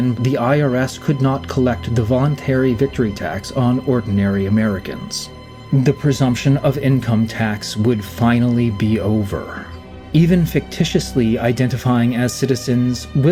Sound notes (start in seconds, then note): none